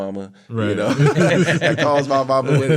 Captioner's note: all laughing